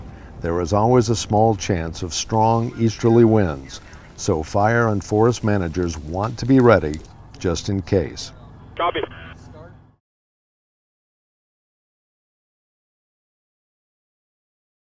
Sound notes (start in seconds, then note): 8.6 voice on the radio